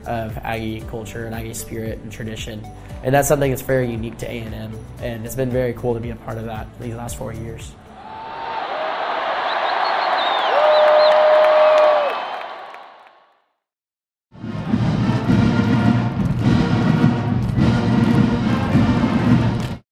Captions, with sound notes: of Aggie culture and Aggie spirit and tradition. And that's something that's very unique to A&M and it's been very cool to be a part of that these last four years. (crowd cheers) (marching band music)